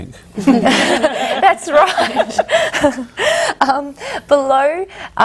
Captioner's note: all laugh